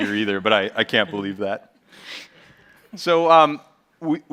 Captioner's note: chuckles